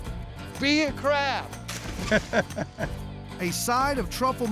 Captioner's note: laughter